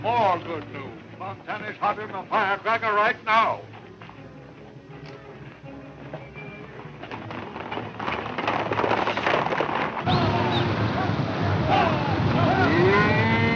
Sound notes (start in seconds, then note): 7.5 horses galloping; 10.0 cowboys yelling; 10.2 stampede rumbling; 12.5 cows mooing; 12.8 guns firing